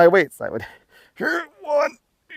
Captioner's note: manly grunt